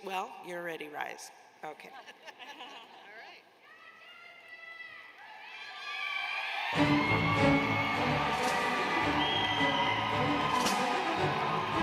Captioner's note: cheers and applause